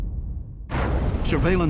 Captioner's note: sound of explosion